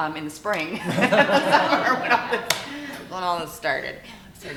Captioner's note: all laughing